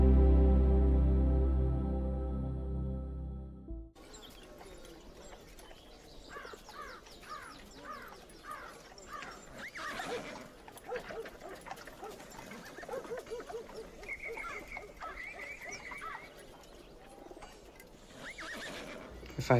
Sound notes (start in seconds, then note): 4.6 birds chirping; 9.6 horse neighing; 10.4 dog barking; 14.8 birds chirping; 14.8 horse neighing